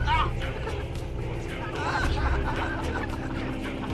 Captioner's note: laughs